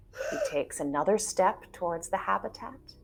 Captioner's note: gasping